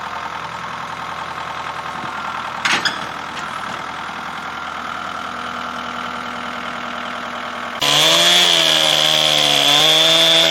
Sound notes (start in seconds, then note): 2.6 metal clamping sound